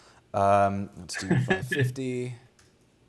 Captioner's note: laughs